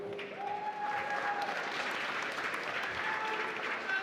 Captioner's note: applause